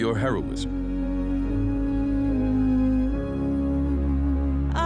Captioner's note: woman humming